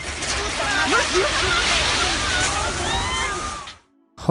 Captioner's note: person talking in foreign language; building implodes and thuds; bystanders screaming